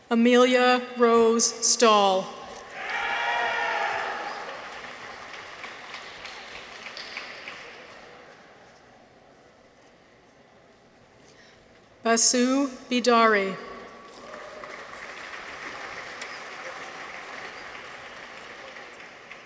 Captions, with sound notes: Amelia Rose Stahl. -(people cheer) -(audience applauds) Basu Bidari. -(people cheer) -(audience applauds)